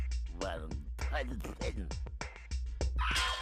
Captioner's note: muttering